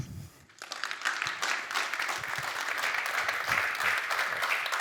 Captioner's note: applause